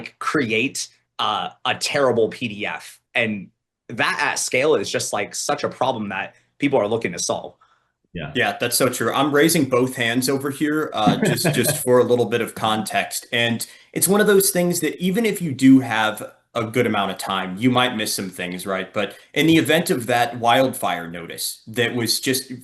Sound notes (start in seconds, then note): 11.0 laughs